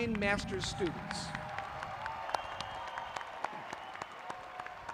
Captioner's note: applauding